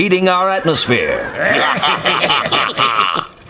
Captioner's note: laugh